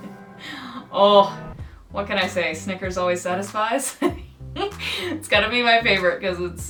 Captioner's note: laughs